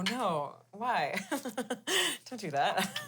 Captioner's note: laughs